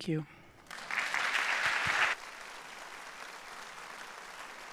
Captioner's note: audience applauding